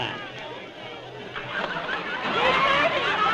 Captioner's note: raucous laughter